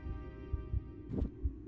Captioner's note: woosh